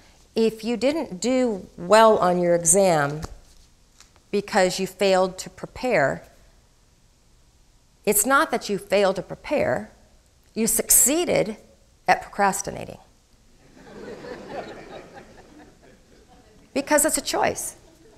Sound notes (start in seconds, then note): 13.6 crowd laughing